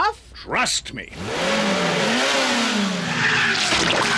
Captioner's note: revs engine